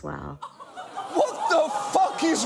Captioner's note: studio audience laughs and groans